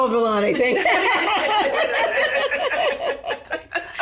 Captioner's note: all laugh